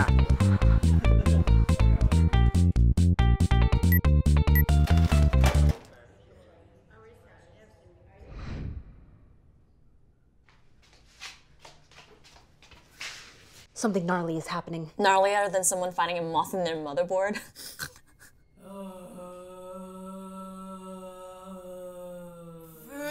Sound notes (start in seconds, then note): 17.4 giggle snort; 18.6 loud groaning; 22.9 groaning gets louder